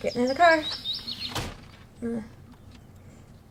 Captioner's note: door slams